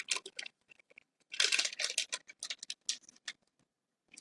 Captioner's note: paper crackling